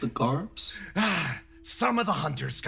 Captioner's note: Yaiyo Sigh